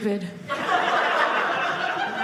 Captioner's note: audience laughing